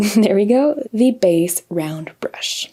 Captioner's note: chuckles